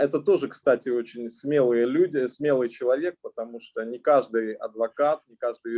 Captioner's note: speaking Russian language